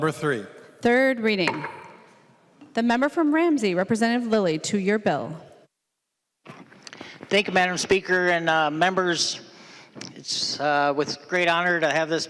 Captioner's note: gavel